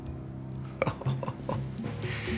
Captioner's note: Jonas chuckling